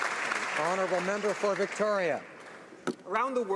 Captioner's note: applause